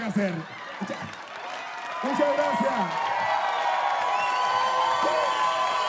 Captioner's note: audience clapping and cheering